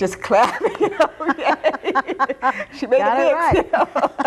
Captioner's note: both laughing